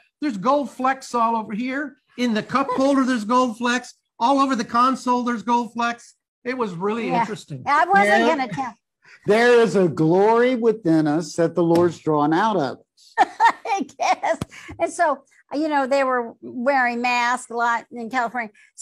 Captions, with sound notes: There are gold flecks all over here. In the cup holder there's gold flecks. All over the console there's gold flecks." It was really interesting. I wasn't going to tell. There is a glory within us that the Lord's drawn out of. (laughing) I guess. And so, you know, they were wearing masks a lot in California.